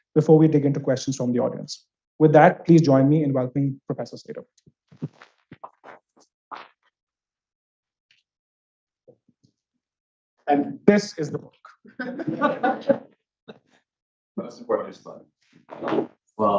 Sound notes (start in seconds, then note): 12.0 audience laughs